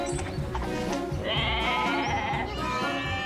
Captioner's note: sheep bleating